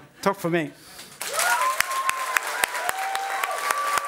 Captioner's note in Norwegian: Applaus